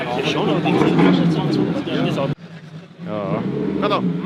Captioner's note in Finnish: taustahälinää